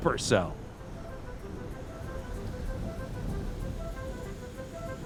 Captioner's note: thunder rumbling